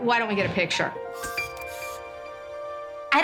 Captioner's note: camera flashing